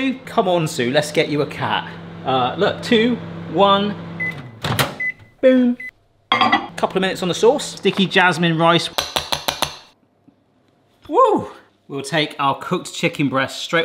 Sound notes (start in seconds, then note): 3.9 microwave beeping; 4.1 microwave door clunking; 8.9 spatula tapping